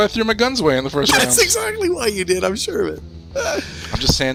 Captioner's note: laughing